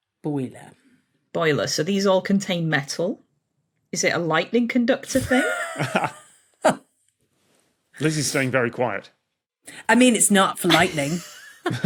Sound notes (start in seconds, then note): 5.1 chuckles; 5.8 wheezes